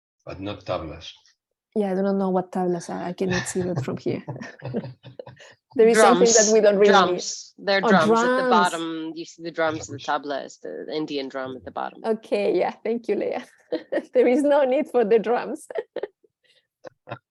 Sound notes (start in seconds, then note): 10.7 laughther